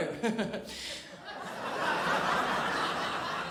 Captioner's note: crowd laughs